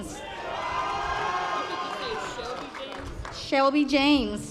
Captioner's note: audience applause